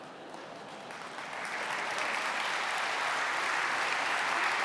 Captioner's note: applause